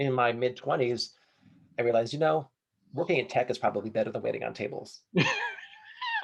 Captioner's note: laughing